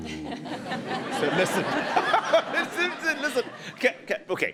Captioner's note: audience laughs